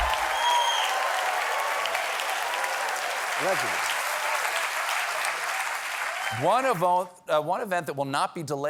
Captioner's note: applause